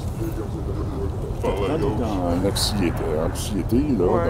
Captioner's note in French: rires des passants